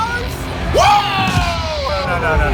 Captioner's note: yells; cheers